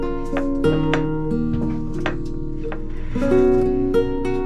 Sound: dish clinking

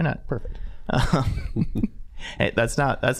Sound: all chuckling

